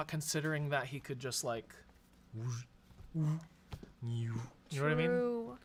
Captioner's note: makes levitating sounds